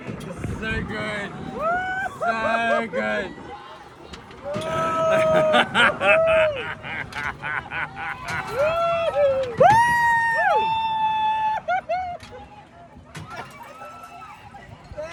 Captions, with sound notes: So good.... so good! *more laughing* Woooooooooooo! *background woo's*